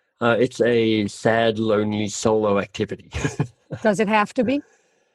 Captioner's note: laughs